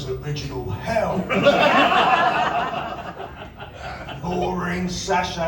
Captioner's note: laughter